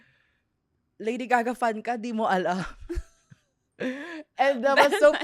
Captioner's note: laughs